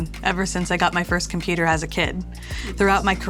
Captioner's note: none